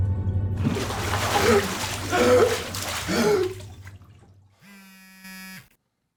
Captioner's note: water splashing; Aiden gasping; phone buzzing